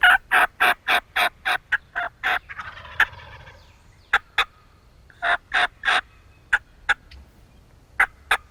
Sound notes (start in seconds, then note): 2.8 turkeys gobbling; 5.2 turkey call